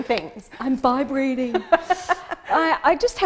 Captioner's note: laughing